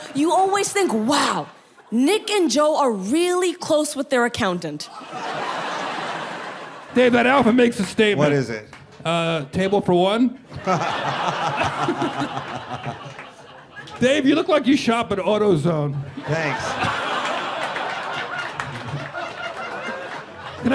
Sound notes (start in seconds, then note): 4.9 people laughing; 10.4 people laughing; 10.6 Dave laughs; 16.0 people laughing